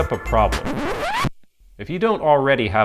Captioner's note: record scratch